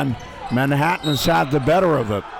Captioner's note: whistle blows